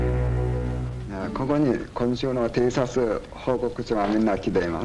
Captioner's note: speaking Japanese